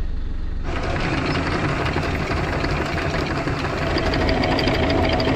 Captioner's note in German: Kettenklappern